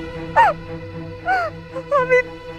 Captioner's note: Meher crying